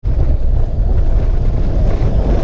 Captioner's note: wind